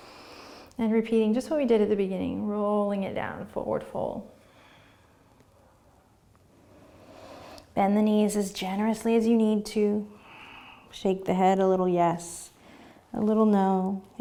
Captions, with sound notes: And repeating, just what we did at the beginning. Rolling it down and forward fold. (breathing) Bend the knees as generously as you need to. Shake the head a little, yes. A little no.